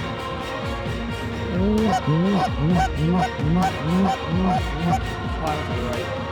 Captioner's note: goose calls